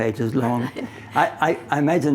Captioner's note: laughing